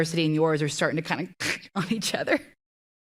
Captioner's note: speaker imitates crashing sound